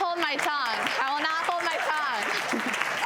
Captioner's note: audience applauds